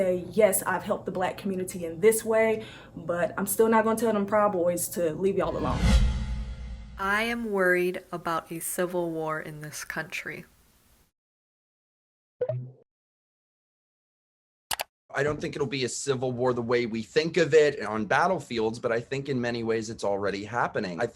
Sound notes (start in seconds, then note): 5.5 air whooshing; 12.4 button blips